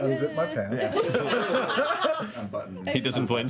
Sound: laughter

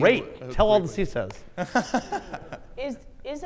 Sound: laughs

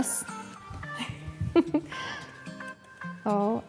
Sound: giggles

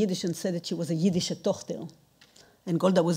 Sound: speaking in foreign language

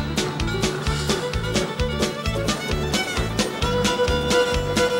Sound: train chugging

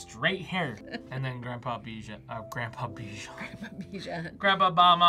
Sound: laughs

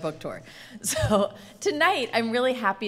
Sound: laughing

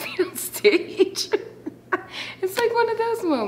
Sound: interviewee laughs

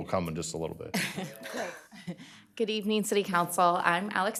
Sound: laughter

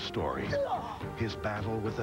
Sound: groan

